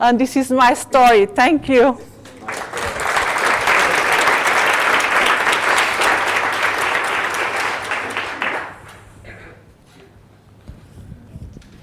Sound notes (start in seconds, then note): 2.2 applause